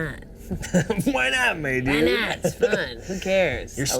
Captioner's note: laughs